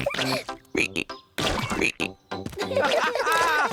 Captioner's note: ribbit; all laugh